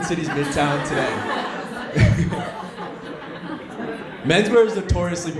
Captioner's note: audience laughing